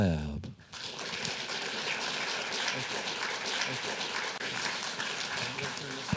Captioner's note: applause